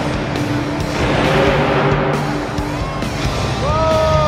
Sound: truck engine revs

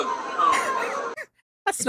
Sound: quiet Laughter

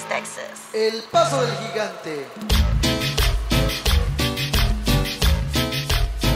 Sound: speaking Spanish

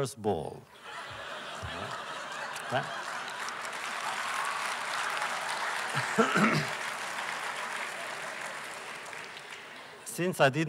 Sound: laughter; applause

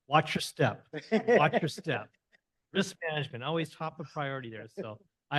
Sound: laughter

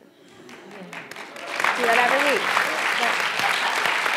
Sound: applause

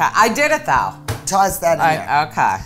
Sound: banging

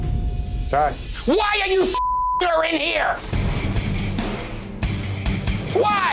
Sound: beep

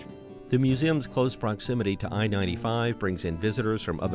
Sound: voiceover

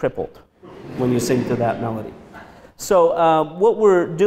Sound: audience laughs

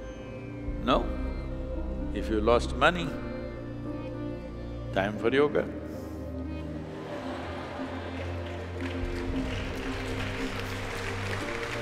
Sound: A few laugh, applause

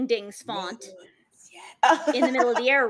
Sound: laughs

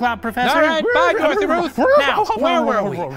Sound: Dorothy Ruth neighs

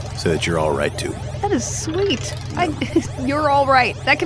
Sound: laughs

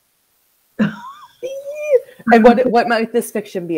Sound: laughs

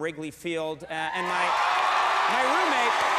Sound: audience cheers and applauds

